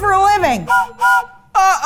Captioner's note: train whistle blowing